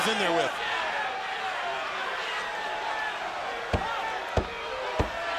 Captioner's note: crowd shouting